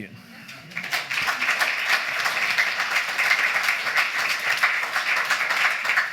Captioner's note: applause